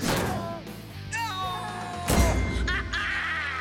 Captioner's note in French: exclamation de victoire